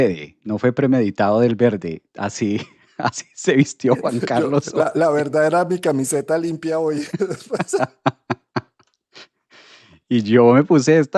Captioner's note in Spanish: risas